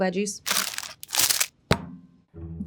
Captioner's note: plastic rustling; patty thudding